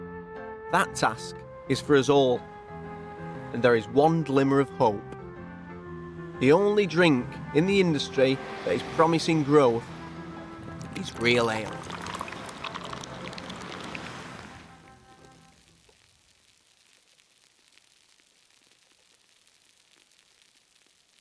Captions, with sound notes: That task is for us all. And there is one glimmer of hope, the only drink in the industry that is promising growth, is real ale. (beer sloshing) (beer fizzing)